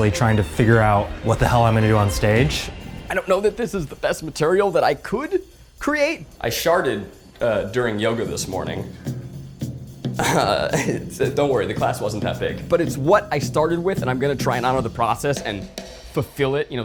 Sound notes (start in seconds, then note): 10.2 laughs